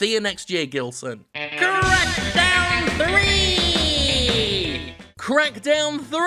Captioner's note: as Skeletor